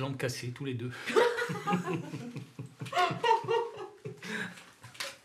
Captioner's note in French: Rires